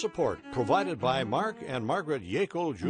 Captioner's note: slow string music; voiceover